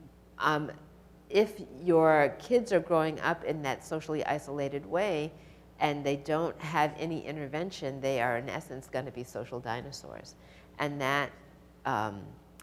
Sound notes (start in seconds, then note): none